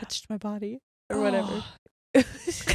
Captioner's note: groans; both laughing